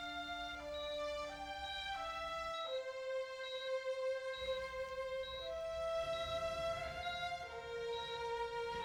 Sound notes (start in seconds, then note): 1.3 monitor beeping intermittently